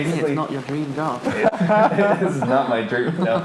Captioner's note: laughing